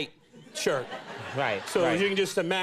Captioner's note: audience laughing